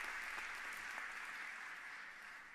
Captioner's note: applause